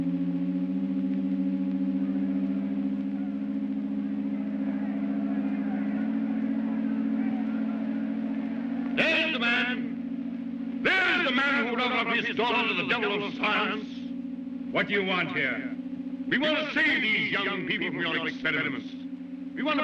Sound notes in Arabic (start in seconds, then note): 0.0 همهمة عالية; 3.3 ضوضاء حشد خافتة